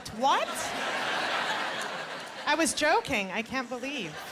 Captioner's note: laughter